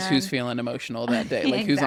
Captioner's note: laughs